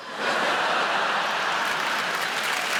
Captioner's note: audience laughing; audience applauding